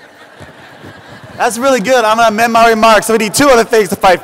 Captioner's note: laughter